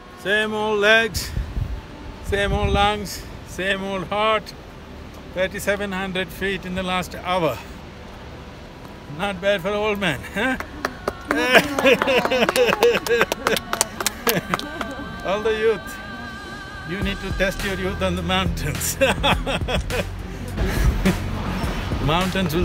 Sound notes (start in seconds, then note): 10.4 few Applaud; 14.5 laughs; 21.6 laughs